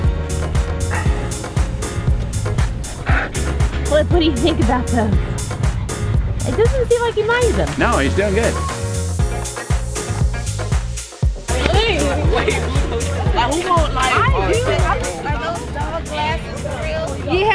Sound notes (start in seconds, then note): 0.3 upbeat music; 9.2 upbeat music; 11.4 crowd chatter